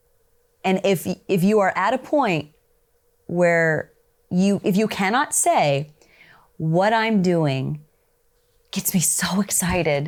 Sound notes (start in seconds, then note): none